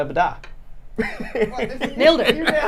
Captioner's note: laughter